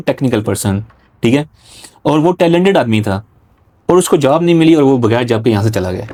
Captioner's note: nasal sound